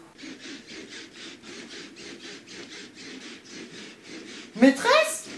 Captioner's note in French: couinements de lit